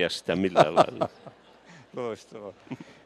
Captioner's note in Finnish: naurua